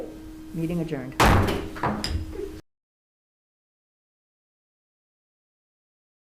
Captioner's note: gavel banging on table